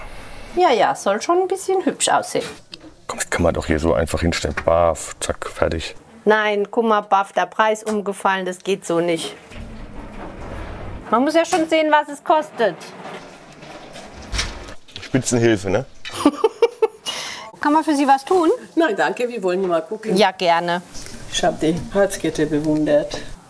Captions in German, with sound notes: Ja, ja, soll schon ein bisschen hübsch aussehen. Komm, das kann man doch hier einfach hinstellen. Baff, zack, fertig. Nein, guck mal, baff, der Preis umgefallen. Das geht so nicht. Man muss ja schon sehen, was es kostet. Spitzenhilfe, ne? (Er lacht.) Kann man für Sie was tun? Nein, danke, wir wollen gucken. - Ja, gerne. Ich hab die Herzkette bewundert.